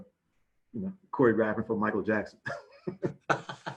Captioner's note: chuckles